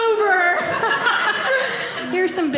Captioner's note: audience laughing